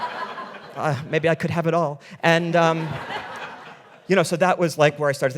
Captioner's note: audience laughing